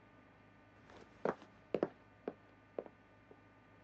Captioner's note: quiet footsteps